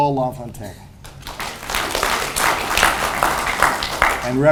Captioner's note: audience applauds